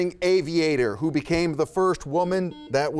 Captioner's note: buzzer beeps